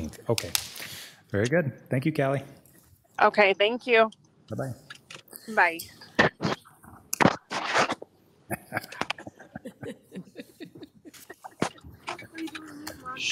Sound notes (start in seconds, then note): 7.2 phone scraping; 8.4 chuckling